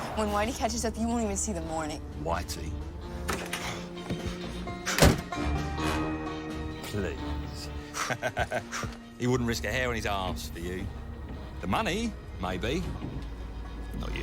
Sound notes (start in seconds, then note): 7.9 laughs